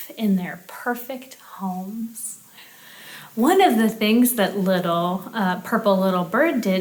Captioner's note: none